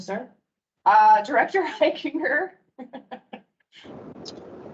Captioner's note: laughs